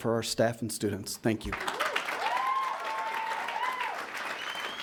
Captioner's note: attendees cheering